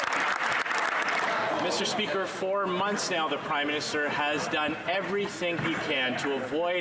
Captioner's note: some Applause